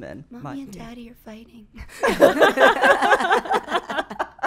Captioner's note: laughing